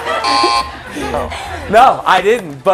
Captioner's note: laughter